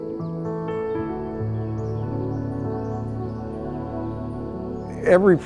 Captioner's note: pensive music; birds tweeting